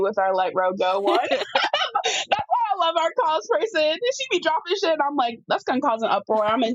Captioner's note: laughs